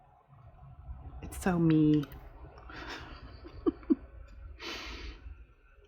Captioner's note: laughs